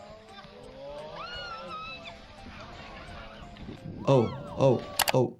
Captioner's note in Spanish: miembro de la multitud gritando